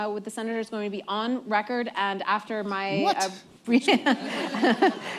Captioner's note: laughter